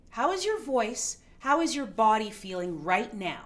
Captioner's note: none